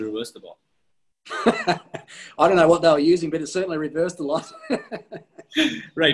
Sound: laughs

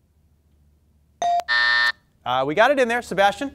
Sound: buzzer dings; timer buzzes

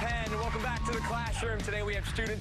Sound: cheers and applause

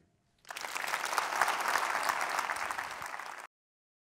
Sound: audience applauds

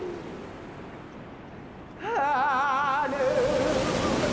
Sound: waves crashing, singing continues

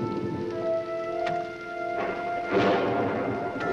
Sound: thunder crashes

